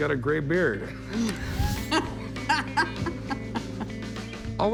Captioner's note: laughs